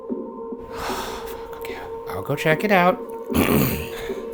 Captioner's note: eerie music; sighs